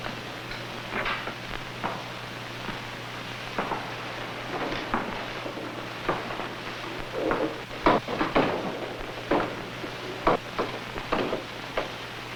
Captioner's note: footsteps